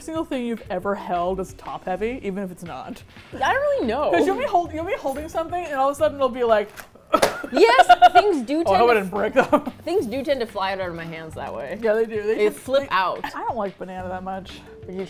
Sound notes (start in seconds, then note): 7.1 box falls; 7.1 laughs